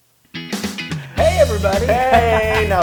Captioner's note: laugh